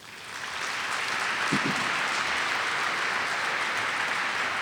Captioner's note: audience claps